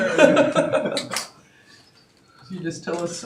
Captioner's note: audience laughing